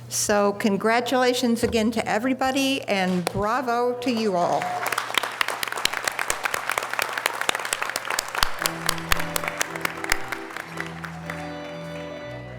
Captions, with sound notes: So, congratulations again to everybody. And bravo to you all. (audience applause) (organ music)